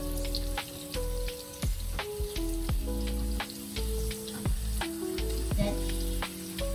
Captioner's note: frying sound of the meat